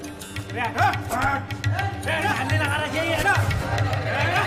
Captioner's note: men yelling